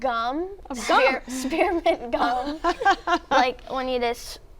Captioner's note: laughs